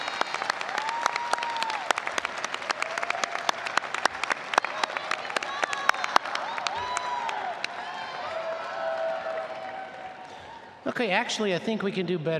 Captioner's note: applause